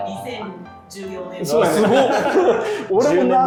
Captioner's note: laughing